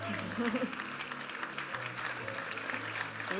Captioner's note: audience applauding and cheering; vibrant music